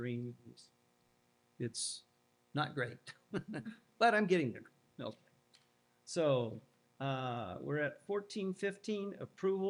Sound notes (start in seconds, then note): 3.3 laughter